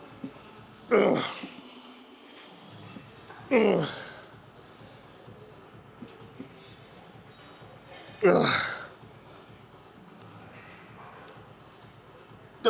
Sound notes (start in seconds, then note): 3.4 grunting; 8.2 grunting